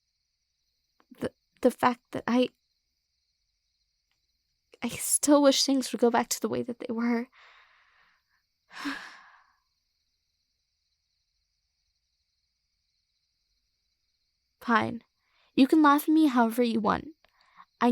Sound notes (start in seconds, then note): 12.6 sigh